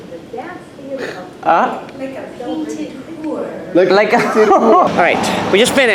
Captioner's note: laughs